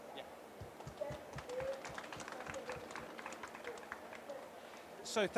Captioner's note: applause